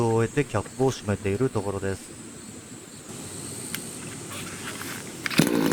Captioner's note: laughs